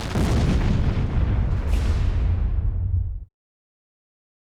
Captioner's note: sound of explosion